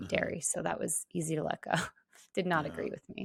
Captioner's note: laughs